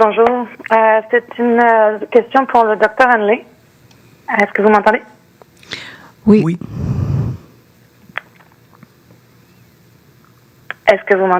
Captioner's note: speaking French